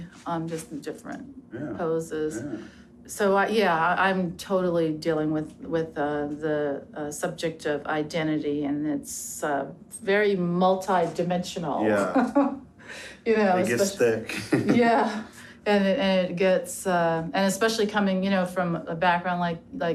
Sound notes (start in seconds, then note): 11.9 chuckles; 13.6 chuckles